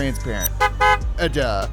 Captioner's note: car horn honks